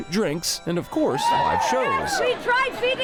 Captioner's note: crowd cheer